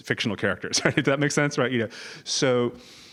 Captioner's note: laugh